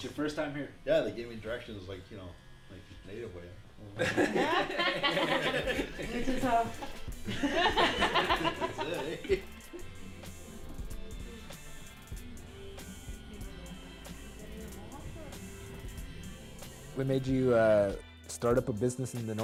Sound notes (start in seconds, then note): 10.3 laughter